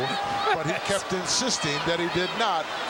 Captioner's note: laughs